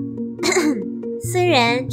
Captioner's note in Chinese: 咳咳